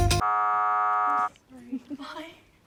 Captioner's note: error buzzes